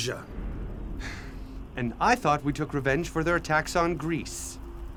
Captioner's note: Philotas gasping